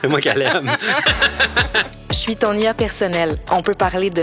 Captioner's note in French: rires